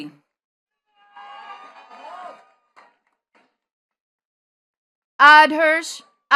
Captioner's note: attendees cheering and clapping